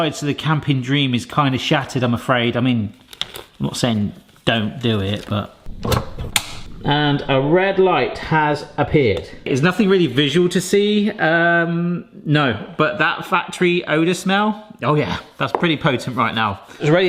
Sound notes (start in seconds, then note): 6.2 plug switch clicks